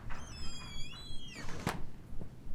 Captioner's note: door creaking